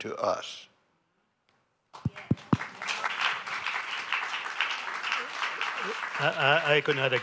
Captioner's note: applause